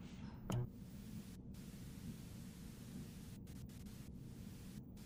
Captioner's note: TV buzzing